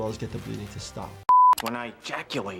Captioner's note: screen beeping